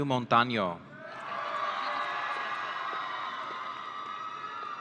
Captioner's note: audience cheering